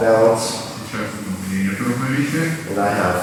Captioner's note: speaking in a foreign language